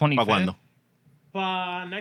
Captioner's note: speaking Spanish